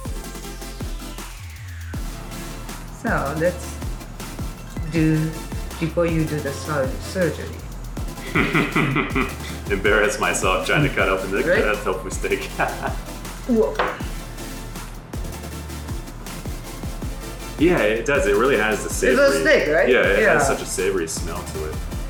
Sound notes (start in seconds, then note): 8.2 chuckles; 14.3 music continues